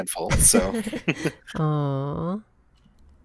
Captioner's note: awwww